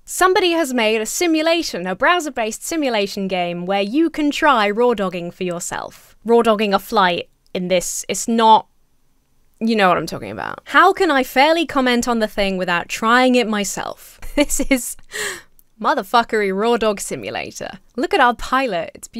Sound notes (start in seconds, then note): 14.2 laughs